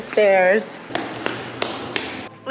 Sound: footsteps

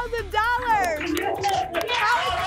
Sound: applause and cheering

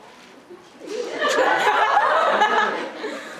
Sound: audience laughter

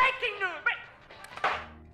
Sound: bonk

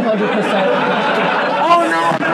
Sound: laughing and clapping

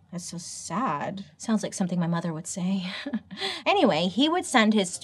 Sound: laughs

